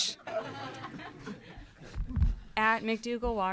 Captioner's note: audience laughing